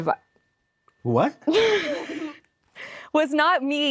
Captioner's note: laughs